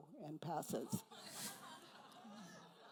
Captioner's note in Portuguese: risos da plateia